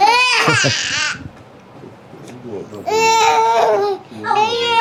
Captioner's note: baby crying